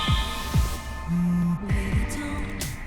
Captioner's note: cellphone vibrates